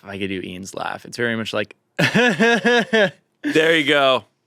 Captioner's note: laughs